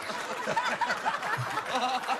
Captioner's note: laughter